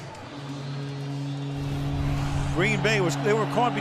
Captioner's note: horn blowing